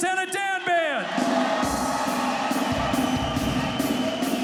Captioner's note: crowd cheers